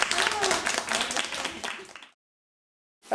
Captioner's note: applause